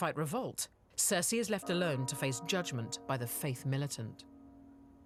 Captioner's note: bell tolls